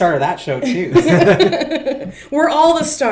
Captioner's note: chuckles